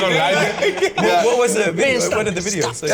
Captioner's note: all laughing